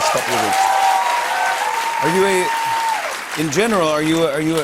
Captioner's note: cheers and applause